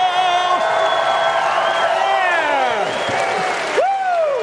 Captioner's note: audience cheering